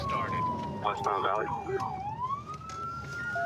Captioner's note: sirens